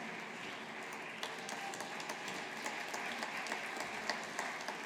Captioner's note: audience applauding